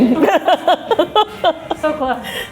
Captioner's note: laughing